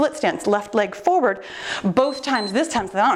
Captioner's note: timer beeps